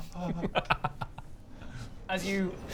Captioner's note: evil chuckle